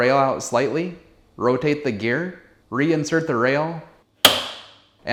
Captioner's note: snaps